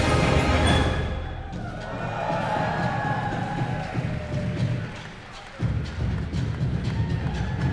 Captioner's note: cheers and applause